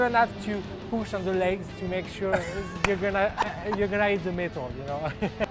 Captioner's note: laughs